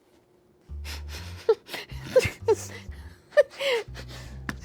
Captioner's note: players chuckle